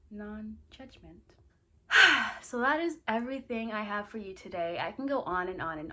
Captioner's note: sighs